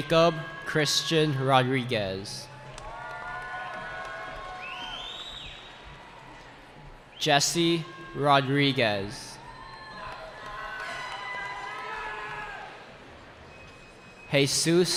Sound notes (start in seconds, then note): 0.0 cheering; 2.4 cheering; 10.4 cheering